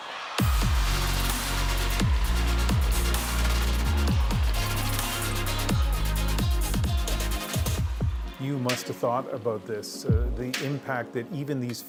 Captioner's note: cheers and Applause